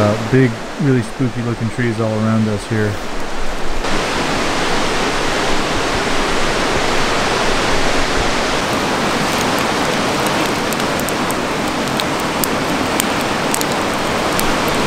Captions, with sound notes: lot of big, really spooky looking trees all around us here. (water rushing) (water rushing) (fire crackling)